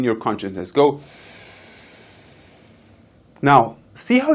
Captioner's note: inhaling